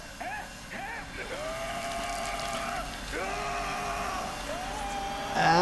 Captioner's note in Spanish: persona en silla grita